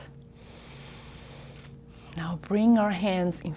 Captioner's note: deep breath